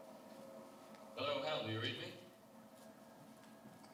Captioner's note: voiceover